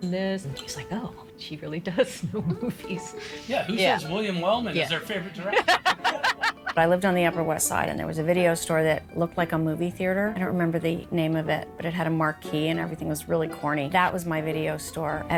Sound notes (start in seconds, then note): 4.7 laughing